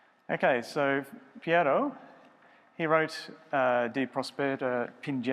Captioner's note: speaking foreign language